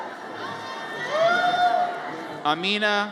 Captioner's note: audience cheers